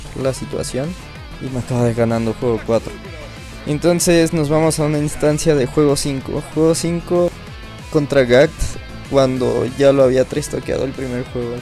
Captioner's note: sigh